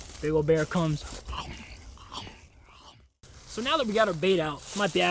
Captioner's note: munching